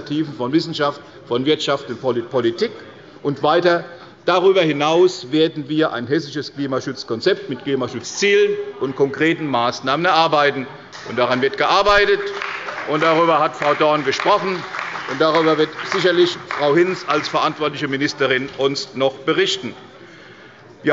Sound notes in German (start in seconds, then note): 14.6 Beifall bei der CDU und dem BÜNDNIS 90/DIE GRÜNEN